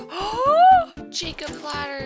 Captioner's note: gasp